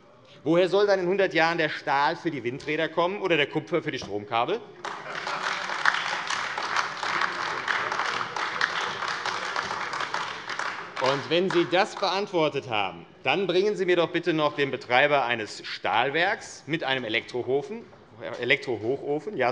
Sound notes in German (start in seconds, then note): 4.8 Heiterkeit und Beifall AfD